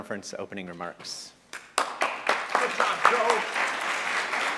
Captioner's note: applause